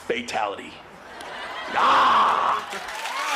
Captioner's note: growls; cheers and applause